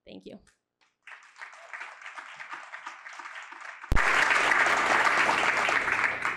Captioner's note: applause